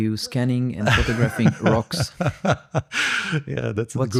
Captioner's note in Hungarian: nevetés